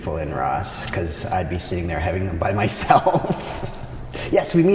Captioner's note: laughs